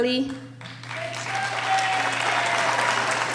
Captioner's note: applauding